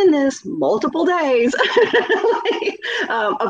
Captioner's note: laughing